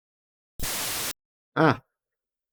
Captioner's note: loud static startup noise